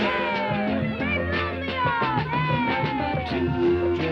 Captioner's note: swishing; kids cheering